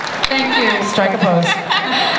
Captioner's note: voiceover; laughter